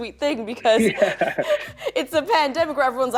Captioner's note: laughs